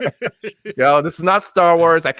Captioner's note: both laughing